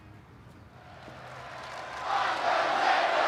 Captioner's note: crowd roaring